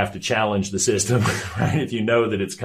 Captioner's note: chuckles